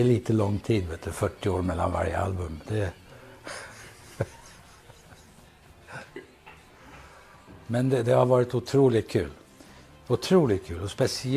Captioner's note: smiles, laughter